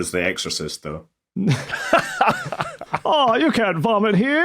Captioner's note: laughs